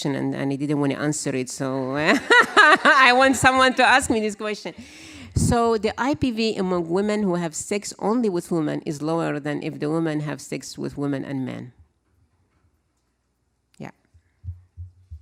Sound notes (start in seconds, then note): 2.0 laugh; 2.0 laughter